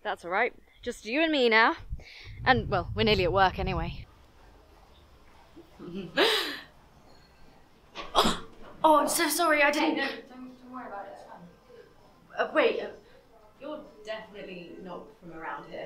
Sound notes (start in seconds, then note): 5.7 giggles